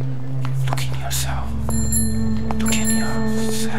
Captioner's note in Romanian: șoaptă: uită-te în tine